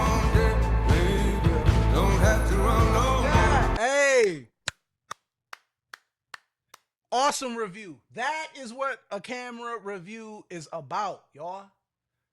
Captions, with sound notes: Hey. (clapping) Awesome review. That is what a camera review is about y'all.